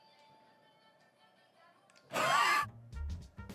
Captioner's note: wheezes